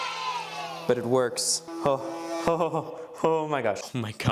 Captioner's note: delirious giggling